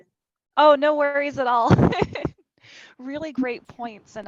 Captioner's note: chuckles